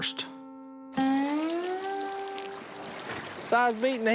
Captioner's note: water trickling